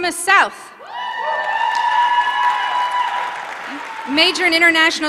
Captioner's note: applause